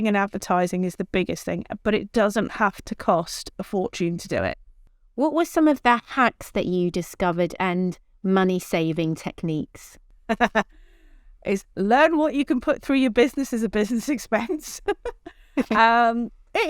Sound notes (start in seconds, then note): 10.3 laughs; 15.5 chuckles